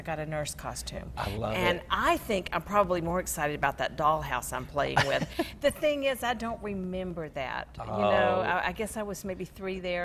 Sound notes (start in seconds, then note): 5.0 laughs